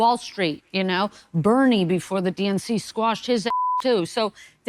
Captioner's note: beep